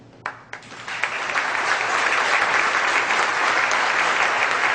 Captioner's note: audience applause